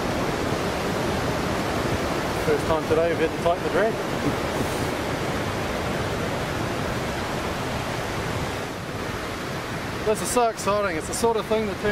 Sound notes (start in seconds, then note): 0.1 waves crashing; 4.2 giggles; 6.6 waves crashing